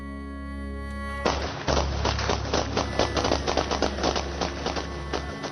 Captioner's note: shooting